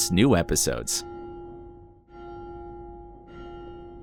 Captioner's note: bell rings